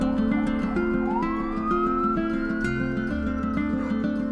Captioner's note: siren wails